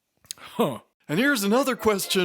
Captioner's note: scoffs